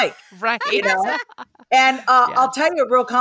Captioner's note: laugh